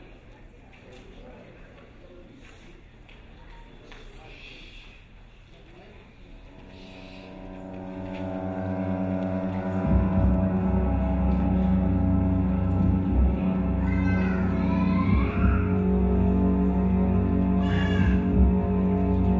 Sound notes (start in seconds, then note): 6.5 crowd shushing; 7.3 grim music; 14.2 baby screaming